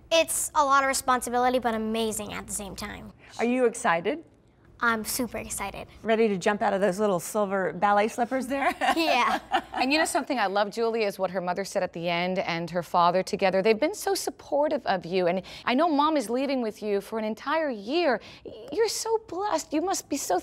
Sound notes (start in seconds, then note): 8.8 laughing